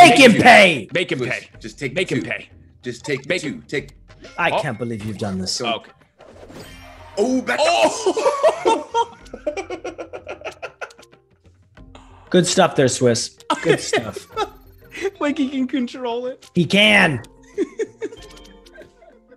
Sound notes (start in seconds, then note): 5.1 laugh; 17.4 laugh